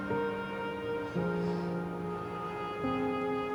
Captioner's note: sighs